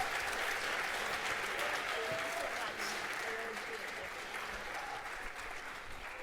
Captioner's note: cheering, applause; chatter